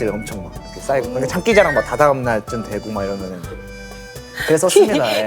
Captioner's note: murmuring out of shyness